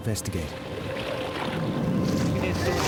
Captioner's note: water splashing